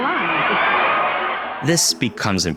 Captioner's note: audience laughing